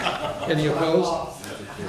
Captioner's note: background laughter